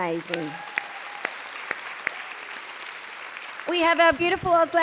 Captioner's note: audience cheering and applauding